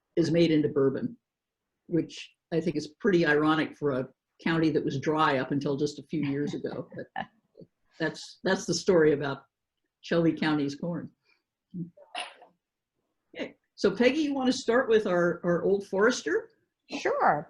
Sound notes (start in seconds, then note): 6.2 laughs